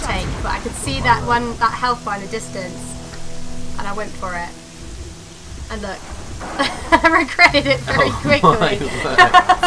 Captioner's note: laughing; laughs